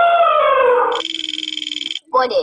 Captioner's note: elephant trumpeting; wheel clicking; voiceover